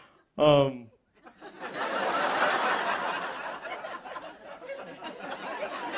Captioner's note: laughter